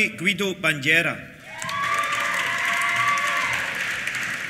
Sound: cheers; applause

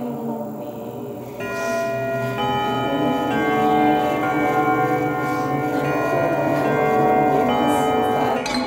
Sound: sound of Antique clock

